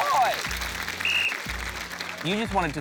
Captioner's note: blows whistle